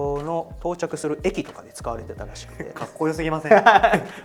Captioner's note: laughs